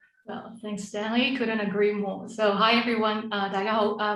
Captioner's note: Cantonese